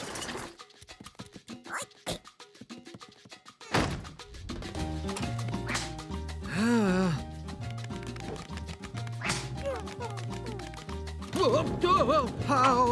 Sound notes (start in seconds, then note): 6.4 sighs; 9.2 whimpering